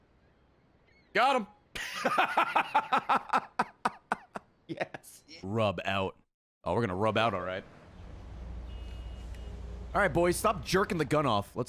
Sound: laughs

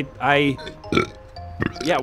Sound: burp

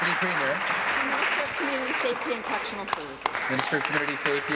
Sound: applause

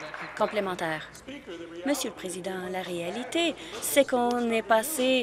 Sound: applause

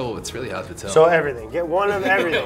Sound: laughs

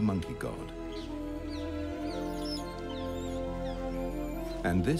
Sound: monkeys squealing

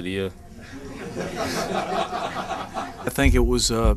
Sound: laughter

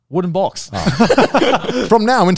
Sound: all laughing

